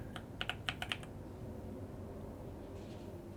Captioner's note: keyboard clicking